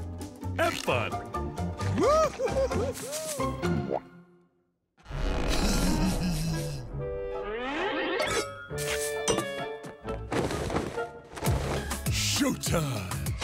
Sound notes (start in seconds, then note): 5.6 laughing